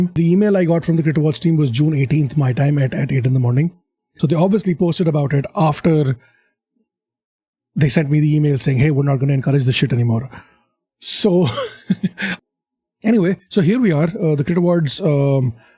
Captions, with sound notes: The email I got from the CRiT Awards team was June 18th my time at 8 in the morning. So they obviously posted about it after they sent me the email saying, "Hey, we're not going to encourage this shit anymore." so... [awkward laugh] so here we are. The crit awards